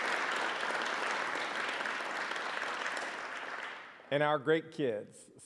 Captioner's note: applause